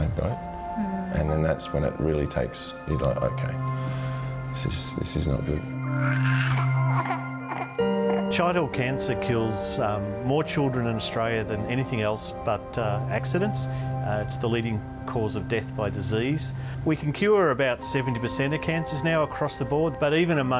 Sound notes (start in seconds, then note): 5.9 crying